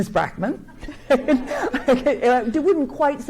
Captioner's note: and audience chuckles